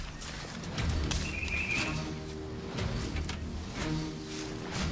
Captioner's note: bird warbling